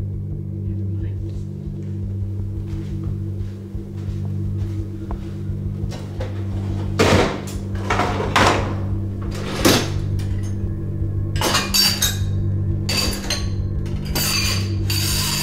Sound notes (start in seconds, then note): 7.0 dishwasher door slams; 11.3 dishes clanking